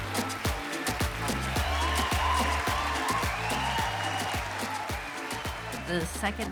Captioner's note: cheering and applauding; house music continues